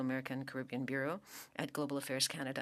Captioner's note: speaking French